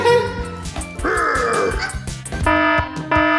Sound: laughs; grunts; quirky music; siren blaring

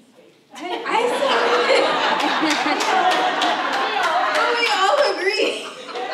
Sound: audience laughs

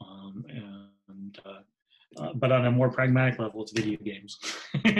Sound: laughs

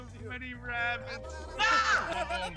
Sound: laugh

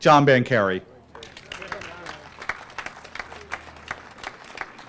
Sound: applause

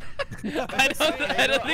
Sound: laughter; laughing

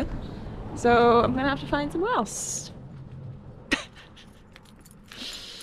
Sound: laughs

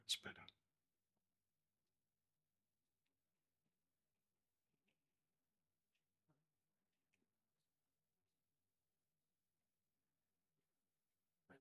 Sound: silence

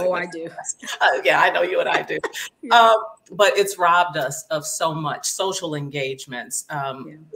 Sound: laughing

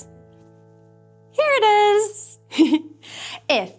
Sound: giggling

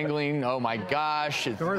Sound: audience laughs

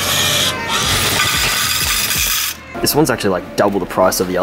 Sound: motor whirring; coins clinking

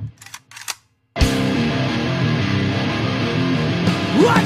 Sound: gun clicking

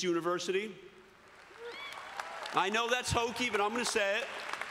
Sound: cheering and applause

